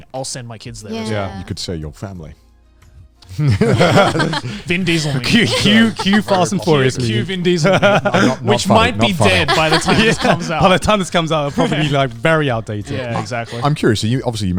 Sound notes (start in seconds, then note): 3.0 everyone laughing